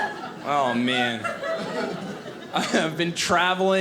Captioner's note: audience laughing